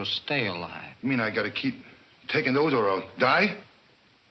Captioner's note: none